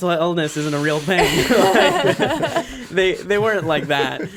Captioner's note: everyone laughs